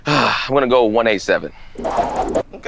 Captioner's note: sighs